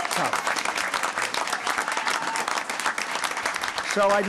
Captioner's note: applause